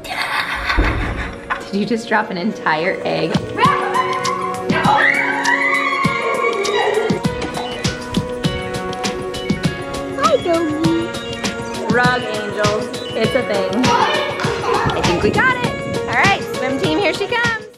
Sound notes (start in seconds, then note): 0.0 laughing; 4.9 squealing; 6.9 upbeat music